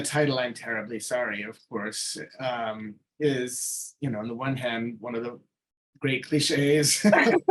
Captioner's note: both laughing